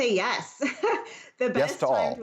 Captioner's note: laughter